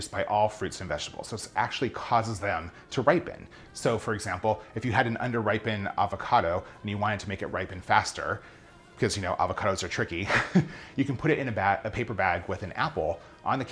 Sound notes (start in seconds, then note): 10.2 laughs